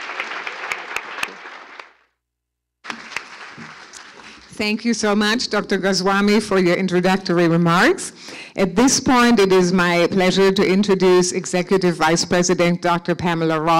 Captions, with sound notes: (Applause) »: Thank you so much doctor Cassani for your introductory remarks.